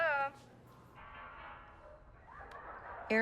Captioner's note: tv continues playing